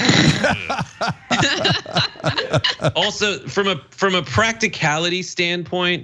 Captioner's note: laugh